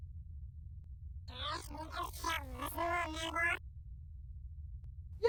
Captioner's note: robot makes sounds